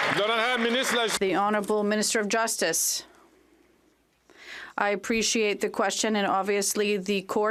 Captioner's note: some Applause